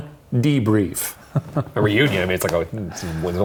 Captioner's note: chuckling